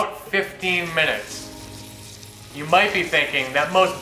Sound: sizzling

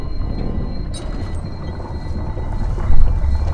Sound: valve squeaks

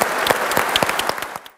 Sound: audience applauds

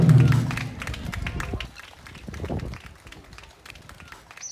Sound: applause

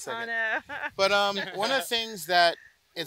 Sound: laughs

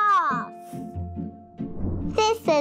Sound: air whooshes; whimsical music

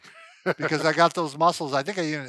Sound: laughing

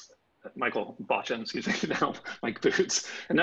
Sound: laughing

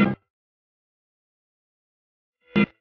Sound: silence

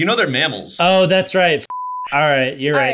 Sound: beep

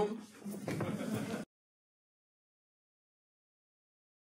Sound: audience laughing

